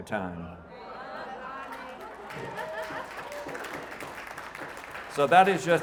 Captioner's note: audience clapping